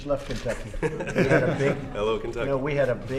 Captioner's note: laughter